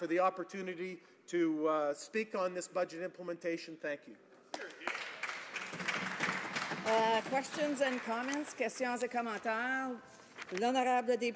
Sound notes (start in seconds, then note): 7.8 applause